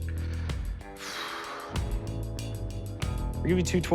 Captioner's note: sighs